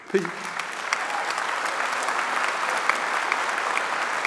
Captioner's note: applause